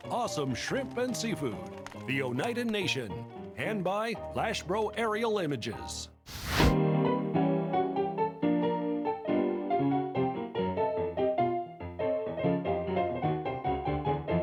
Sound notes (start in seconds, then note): 6.2 fire whooshing; 7.8 upbeat ragtime piano music